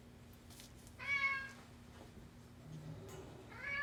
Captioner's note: cat mewing